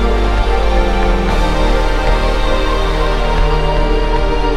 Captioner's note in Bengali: ঘণ্টা